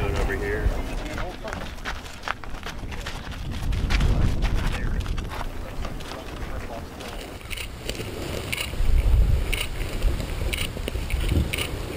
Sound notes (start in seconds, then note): 2.2 shoes crunching against dirt